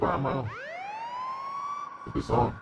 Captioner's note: siren blaring